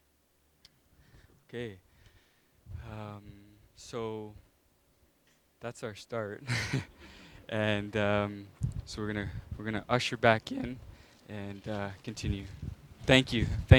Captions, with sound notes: So that's our start. (laughing) And so we're going to usher back in and continue.